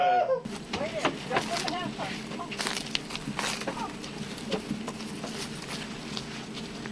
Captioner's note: sound of walking